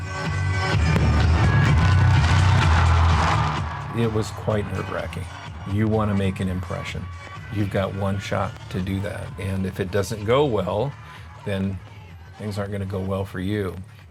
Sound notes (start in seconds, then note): 0.3 upbeat music; 0.8 fireworks pops and rattles; 3.7 spectators cheering